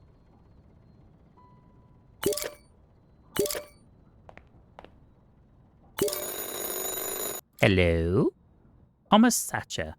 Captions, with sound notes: [Phone ringing] Hello? Omasacha.